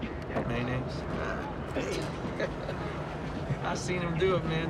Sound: chuckles

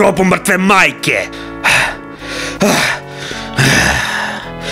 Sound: breathes deeply to calm down

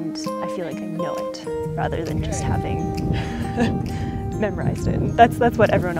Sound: laugh

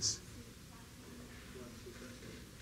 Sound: background chatter

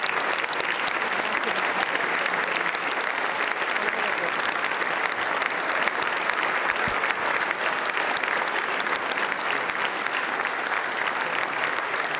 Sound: applause

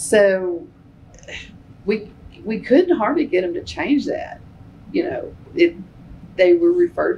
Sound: laughs

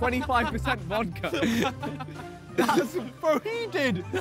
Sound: laughing

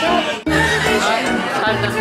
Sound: laughing

